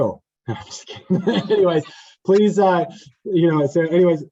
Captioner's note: panelist laughing